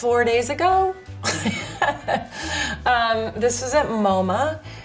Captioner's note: laughs